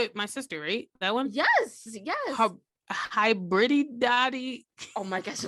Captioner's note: giggles